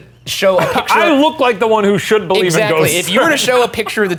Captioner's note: laughing